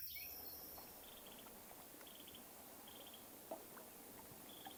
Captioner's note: nature sounds